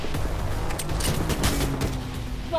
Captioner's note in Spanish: Disparos